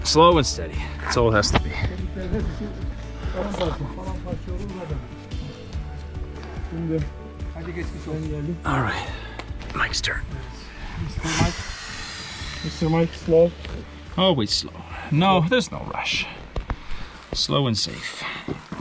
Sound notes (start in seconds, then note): 3.6 gentle uplifting music; 4.7 chattering; 11.2 exhales sharply